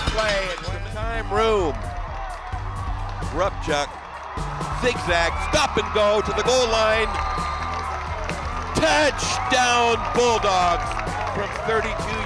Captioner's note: cheering and applause